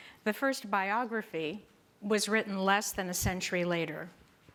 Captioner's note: none